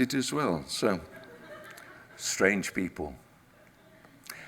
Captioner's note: audience laughs